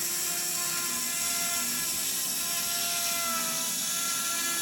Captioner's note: saw buzzing